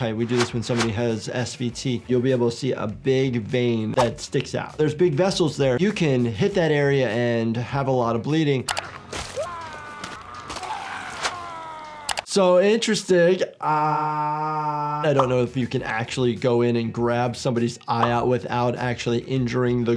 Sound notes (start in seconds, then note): 8.8 liquid squelching; 9.2 man screaming; 12.1 computer mouse clicks